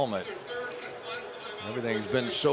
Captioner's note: pa announcement